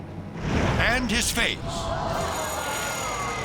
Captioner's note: fire whooshes; crowd gasping